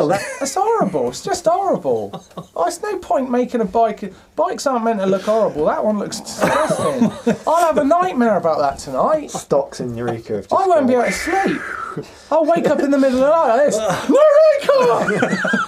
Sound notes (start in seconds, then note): 11.0 whistling